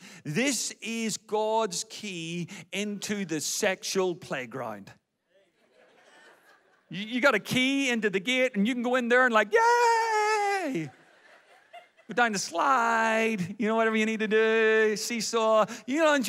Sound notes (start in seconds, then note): 5.5 audience laughs; 10.6 audience laughs